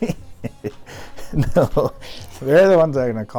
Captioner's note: laughing